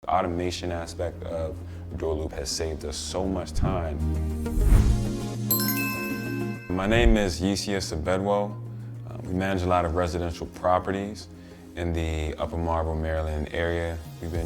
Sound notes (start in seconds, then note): 4.4 graphic whooshing; 4.7 light music; 5.5 graphic chiming